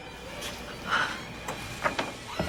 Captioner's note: gasps